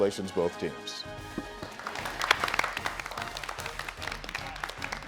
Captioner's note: crowd applauds